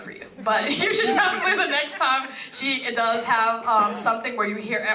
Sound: laugh

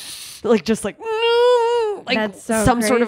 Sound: moaning sounds

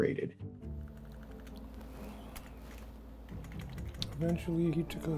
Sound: keyboard typing

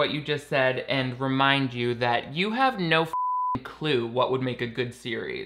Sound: beeps

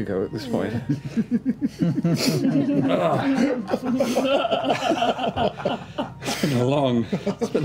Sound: laughter

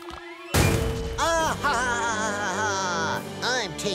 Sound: laughing

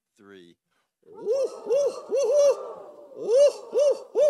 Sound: all whooping

